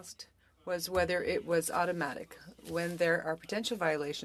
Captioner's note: speaking French